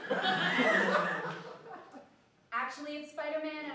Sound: laughter

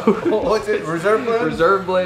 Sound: laughing

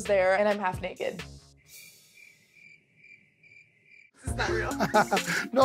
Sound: crickets chirping; laughing

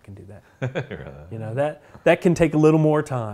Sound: laughs

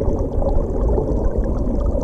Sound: bubbling

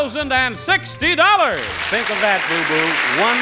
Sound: audience clapping

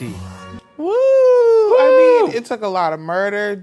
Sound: The Professor and Joyce cheering

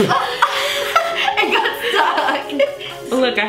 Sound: giggles

